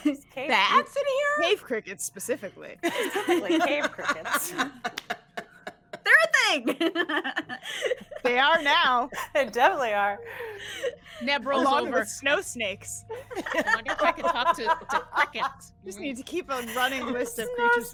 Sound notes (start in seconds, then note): 2.8 all laughing